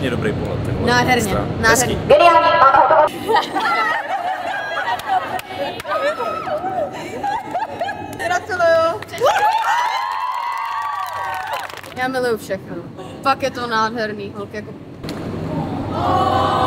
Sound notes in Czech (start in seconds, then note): 4.2 Potlesk; 4.2 Smích